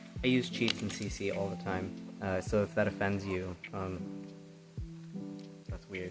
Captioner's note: none